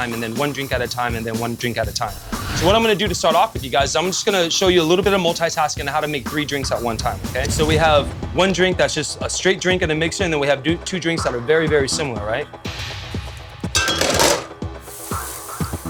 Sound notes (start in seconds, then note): 12.7 intense music; 13.7 clanking